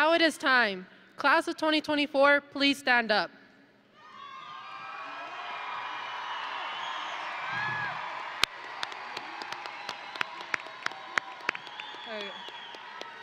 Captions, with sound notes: - Now it is time, Class of 2024, please stand up. (audience and graduates cheering) (audience and graduates applauding)